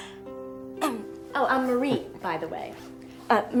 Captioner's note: clears throat